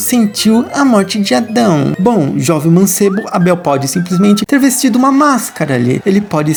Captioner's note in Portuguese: Voz cômica